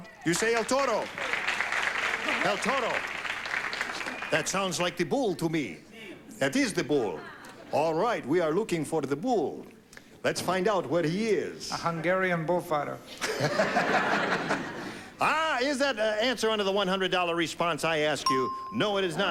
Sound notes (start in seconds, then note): 6.8 slight transylvanian accent; 13.2 laughing